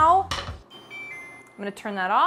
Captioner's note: cooktop chimes